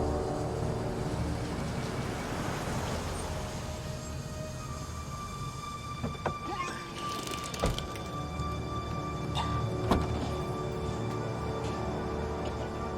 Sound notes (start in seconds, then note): 6.4 vomits; 9.3 coughing